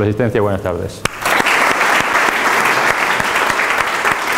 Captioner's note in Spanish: aplausos